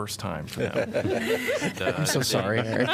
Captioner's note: laughter